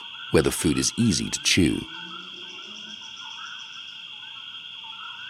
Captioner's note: wildlife chirping